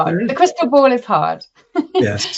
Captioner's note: chuckles